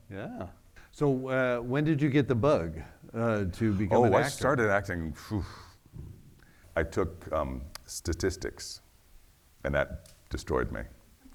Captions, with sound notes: Yeah, so when did you get the bug to become an actor? Oh, I started acting (exhales), I took statistics and that destroyed me.